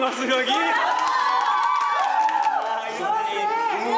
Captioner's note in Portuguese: gritaria